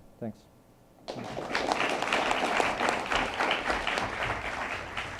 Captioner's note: attendees applauding